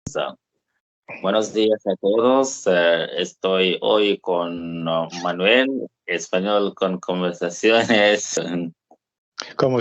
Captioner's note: Español con conversaciones